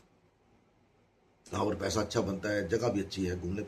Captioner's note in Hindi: नाक से की जाने वाली आवाज़